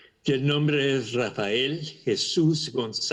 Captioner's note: spanish